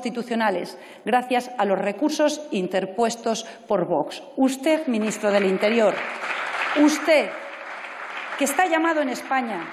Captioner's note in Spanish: Aplausos